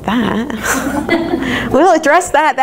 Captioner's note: crowd laughs